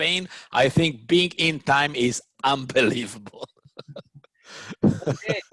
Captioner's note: laughs